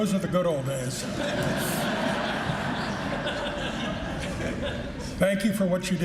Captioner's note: laughing